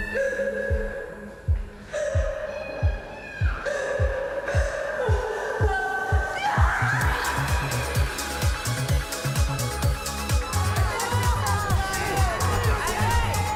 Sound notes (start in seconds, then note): 0.1 screaming in background; 1.9 loud crying; 6.8 screaming; 7.9 uptempo dance music; 11.4 shouting